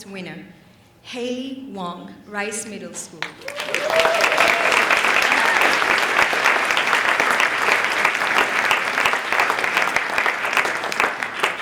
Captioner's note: applause